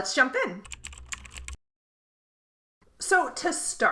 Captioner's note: keystrokes clacking